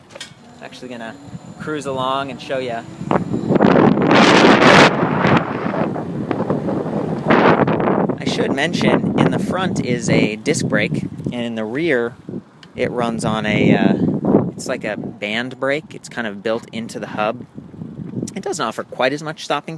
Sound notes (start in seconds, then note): 3.7 wind noise